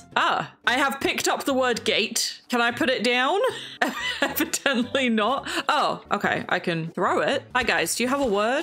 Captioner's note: laughs